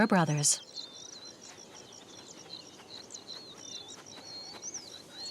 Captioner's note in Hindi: चहचहाहट